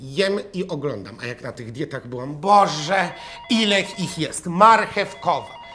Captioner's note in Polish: dzwoni domofon